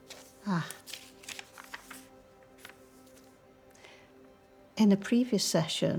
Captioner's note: paper rustling